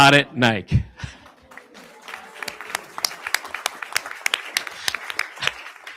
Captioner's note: audience applauding